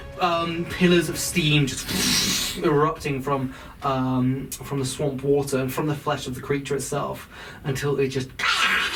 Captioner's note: fwooshing sound; dying creature noises